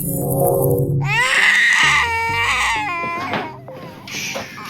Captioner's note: baby crying